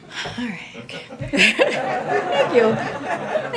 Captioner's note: laughter